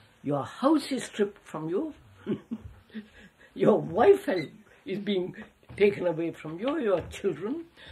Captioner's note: laughs